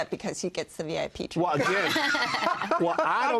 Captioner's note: laughter